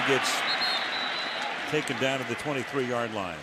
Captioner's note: whistle blows